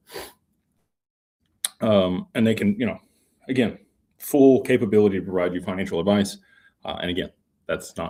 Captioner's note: snorts